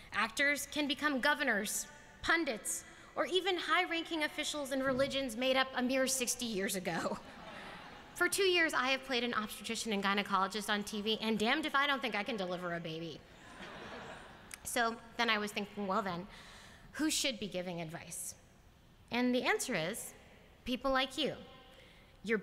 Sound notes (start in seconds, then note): 7.2 laughter; 7.2 laughs